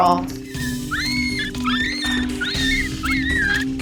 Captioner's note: puppy squealing